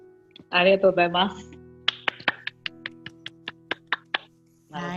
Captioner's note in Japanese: 拍手